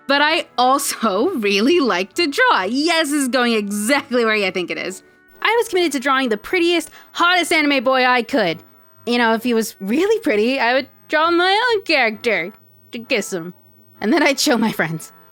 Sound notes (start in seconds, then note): none